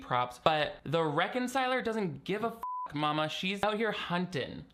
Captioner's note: beep